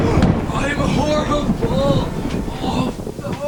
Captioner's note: moaning